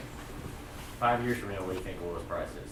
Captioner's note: voiceover